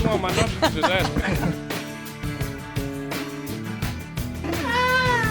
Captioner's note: group laughs